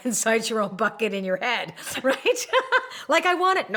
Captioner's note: laughs